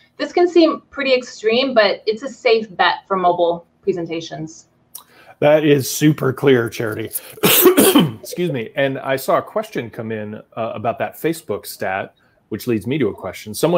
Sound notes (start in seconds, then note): 7.2 coughing